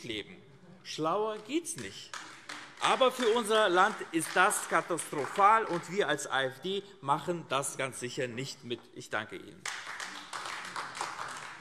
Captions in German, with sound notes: Schlauer geht es nicht. (Beifall AfD) Für unser Land ist das aber katastrophal. Wir als AfD machen das ganz sicher nicht mit. - Ich danke Ihnen.